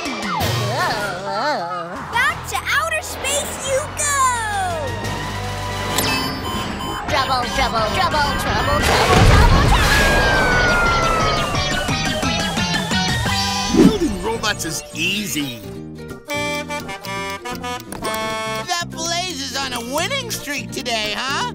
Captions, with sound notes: [groaning] Back to outer space you go! Trouble trouble trouble! Trouble trouble trouble! [screaming] Building robots is easy. That Blaze is on a winning streak today, huh?